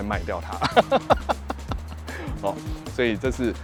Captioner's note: laughs